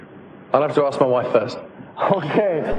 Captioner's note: pat